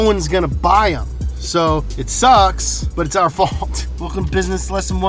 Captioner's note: chuckles